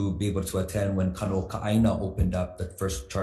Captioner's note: speaks foreign language